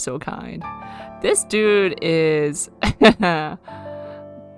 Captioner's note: laughs